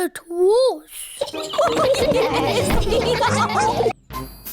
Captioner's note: all giggle